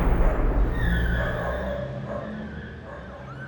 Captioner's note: gunshot sounds